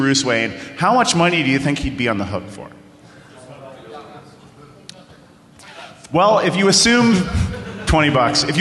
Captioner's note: off mic